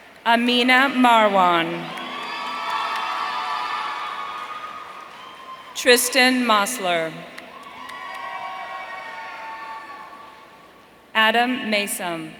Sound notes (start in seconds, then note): 1.5 audience cheering